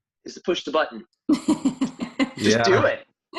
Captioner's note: laughing